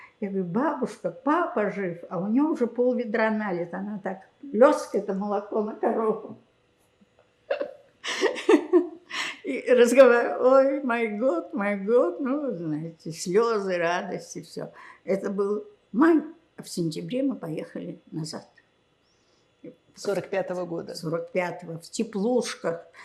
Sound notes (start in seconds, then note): 8.0 laughing; 9.9 yiddish